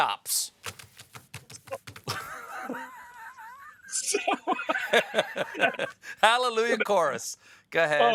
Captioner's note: laughter